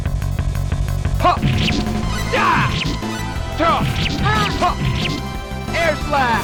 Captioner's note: battle grunts